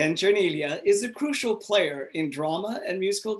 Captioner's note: none